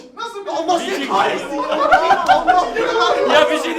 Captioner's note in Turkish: gülüşmler